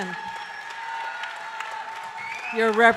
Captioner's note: audience cheering and applauding